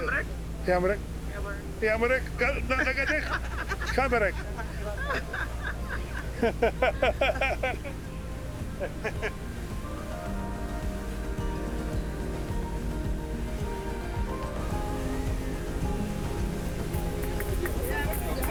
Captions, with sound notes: [speaking in foreign language] [laughing] [laughing] [piano music] [applause]